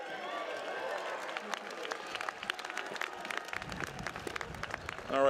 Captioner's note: applause